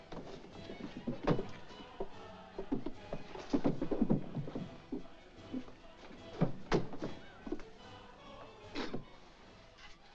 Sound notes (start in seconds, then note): 0.0 jovial music & singing; 6.4 thunk